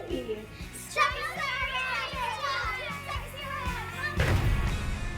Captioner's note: kids yelling out dinosaur names